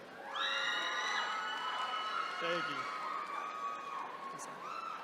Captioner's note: attendees cheering